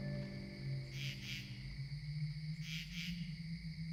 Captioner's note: crickets chirping